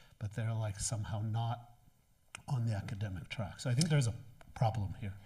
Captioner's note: none